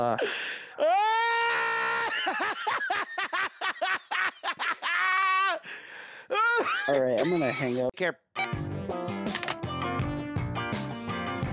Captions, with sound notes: Uh-- (laughing) All right, I'm gonna hang up. - Okay. (funky music)